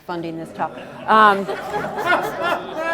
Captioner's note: laughter